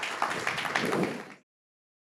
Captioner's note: audience applauding